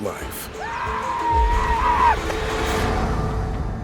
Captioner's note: seminole war cry